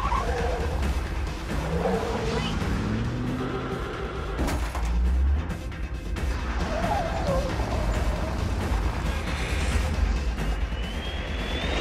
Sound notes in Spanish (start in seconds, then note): 0.1 Ruido del vehículo en marcha; 2.6 Chirrido de llantas